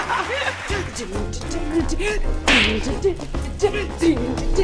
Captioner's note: all laugh; fake crowd claps; girls humming